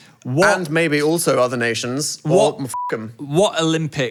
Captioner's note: beep